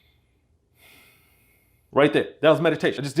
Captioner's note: exhales; inhales